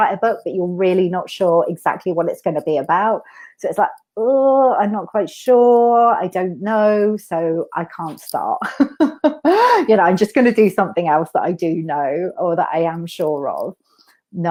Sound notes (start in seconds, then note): 8.8 laughs